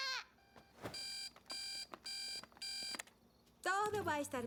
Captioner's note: buzzing